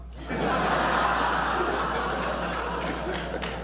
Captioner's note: laughter